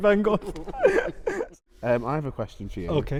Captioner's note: laughter